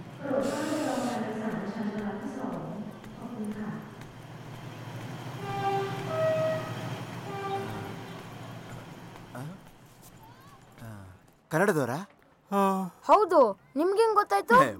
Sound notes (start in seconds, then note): 12.5 yawns